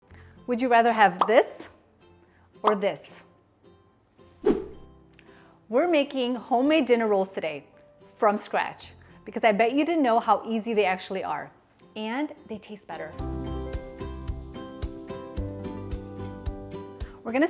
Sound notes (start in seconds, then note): 1.2 graphic pops; 3.3 graphic pops; 4.4 graphic whooshes; 13.8 gentle music